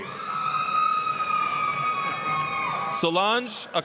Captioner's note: applause, cheering